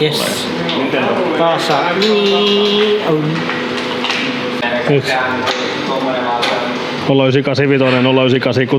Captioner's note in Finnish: imitoi ääniefektiä